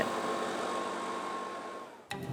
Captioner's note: soft roar of blower